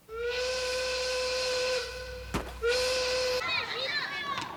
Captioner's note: train whistle blowing; children laughing